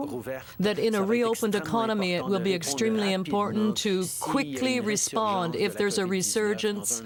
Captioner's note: speaking French